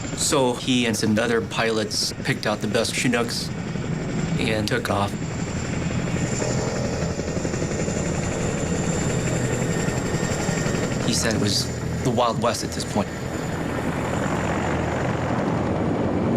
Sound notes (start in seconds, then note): 5.6 helicopters whirring